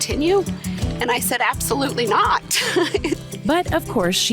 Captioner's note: laughs